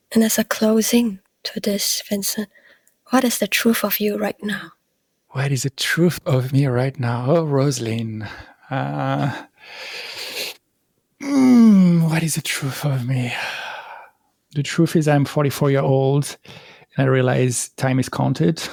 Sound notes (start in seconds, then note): 11.2 sigh